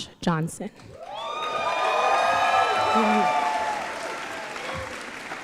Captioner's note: cheering